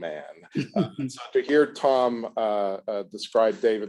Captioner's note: laughs